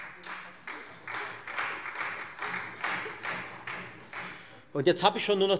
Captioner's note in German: Beifall Freie Demokraten